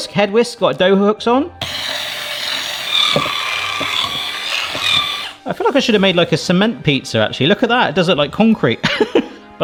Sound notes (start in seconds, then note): 1.6 whisk whirring; 9.3 laughs